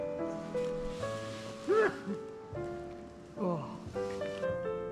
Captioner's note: A loud sneeze echoes in the silence